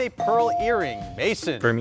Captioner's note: buzzer dinging